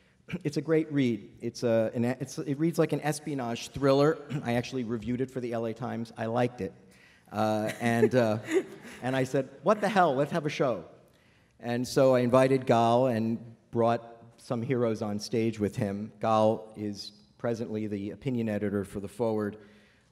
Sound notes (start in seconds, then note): 7.5 laughter